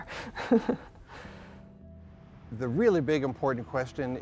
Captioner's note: chuckling